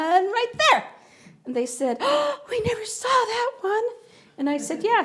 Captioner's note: gasps